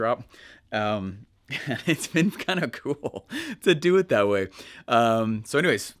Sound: laughing

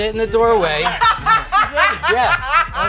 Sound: laughing

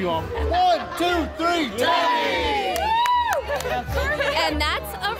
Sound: all cheer

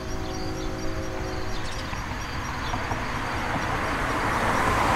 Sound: cars driving

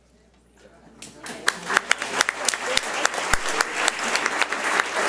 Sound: audience applauds

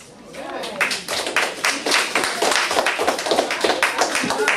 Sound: class applauds

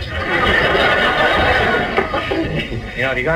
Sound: audience laughs

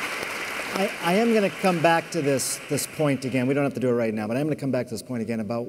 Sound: applause

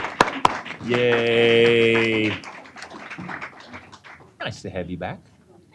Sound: applause

